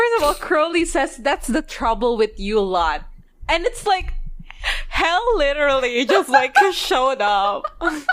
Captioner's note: laughing